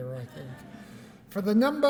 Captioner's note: laughter